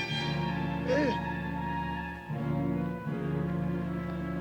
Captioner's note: Red Hawk grunts